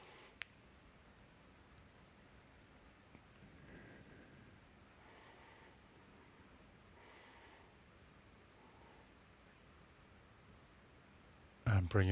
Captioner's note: silence